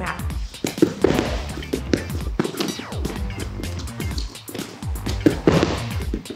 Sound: shoes and body thudding against mat

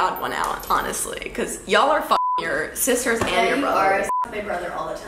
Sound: beep

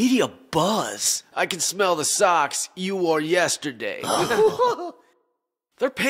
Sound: laughs

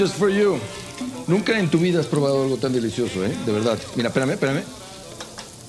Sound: speaking in foreign language; cheerful background music

